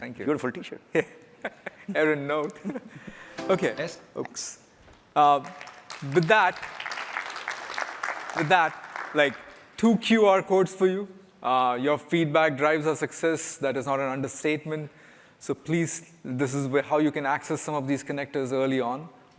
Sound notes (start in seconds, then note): 5.4 applause